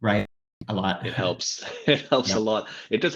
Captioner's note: laughs